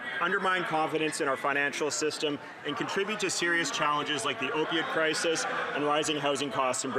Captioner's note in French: voix de l'interprète